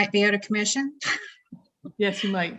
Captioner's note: laughs